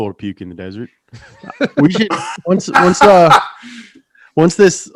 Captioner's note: hosts laughing